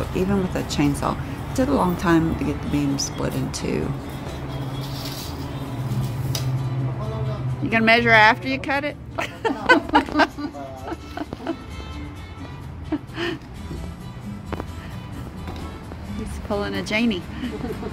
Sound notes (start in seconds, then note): 9.1 laughs